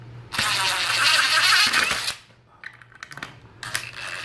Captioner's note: drill whirs